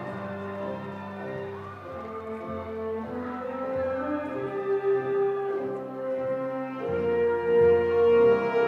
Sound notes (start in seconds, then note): 0.0 audience cheering; 0.0 audience applauding